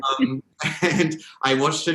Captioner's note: both laugh